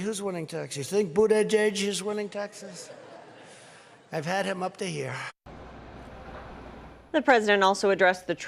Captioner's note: laughter